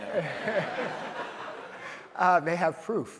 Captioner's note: audience laughs